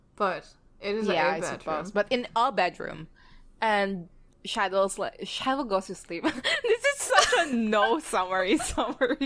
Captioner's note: both laugh